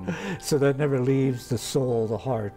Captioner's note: laughs